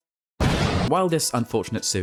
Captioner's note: explosion SFX